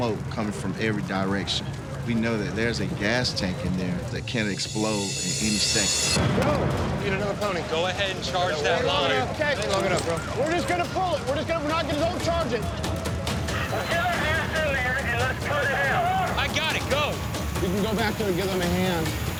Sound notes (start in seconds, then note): 5.9 indistinct chatter; 12.8 man over radio